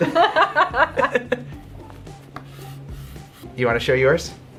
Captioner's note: laughing